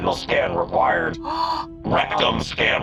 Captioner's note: gasps